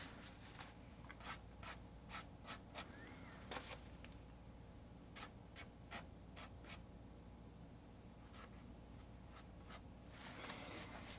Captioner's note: scratching sounds